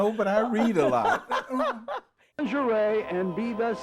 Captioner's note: laughs